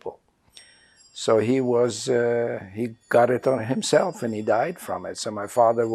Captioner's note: doorbell